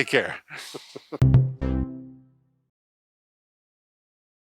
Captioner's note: ending sound